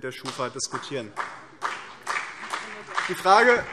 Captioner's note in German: Beifall BÜNDNIS 90/DIE GRÜNEN